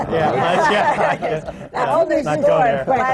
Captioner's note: laughter